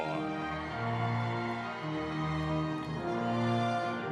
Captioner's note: audience cheering